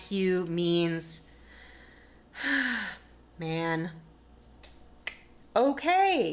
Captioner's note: sighs; soft clap